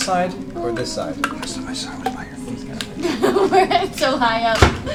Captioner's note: laughs